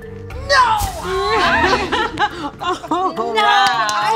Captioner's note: light suspenseful music; all laugh